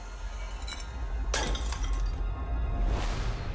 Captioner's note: bottle shatters